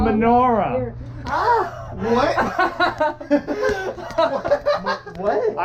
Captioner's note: confused laughing